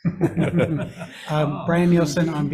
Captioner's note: members chuckling